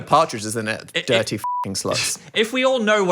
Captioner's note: beep